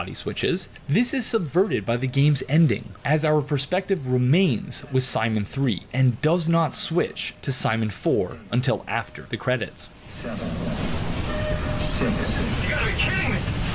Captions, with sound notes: switches, this is subverted by the game's ending as our perspective remains with Simon 3 and does not switch to Simon 4 until after the credits. [in-game audio]